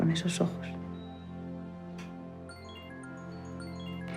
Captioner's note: phone